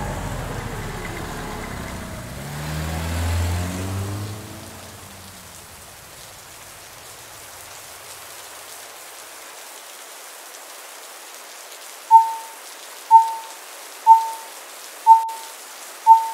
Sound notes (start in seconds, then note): 0.0 engine reversing; 2.9 vehicle leaving; 12.2 beep beep beep beep